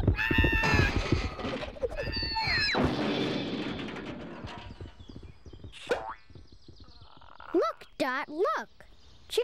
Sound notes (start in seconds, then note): 0.2 squawks loudly; 2.3 crashing